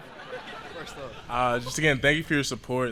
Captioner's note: laughter